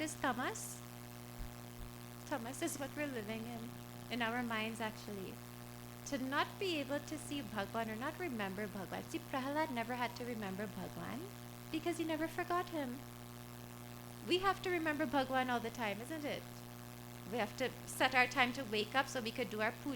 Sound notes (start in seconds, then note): none